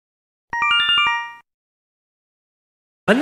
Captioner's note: Yume Nikki Instructions sound effect